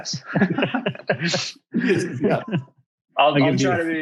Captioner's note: all laughing